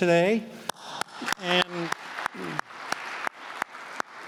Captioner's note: applause